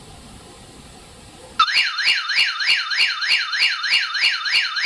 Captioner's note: alarm blaring